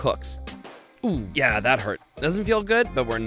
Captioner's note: pop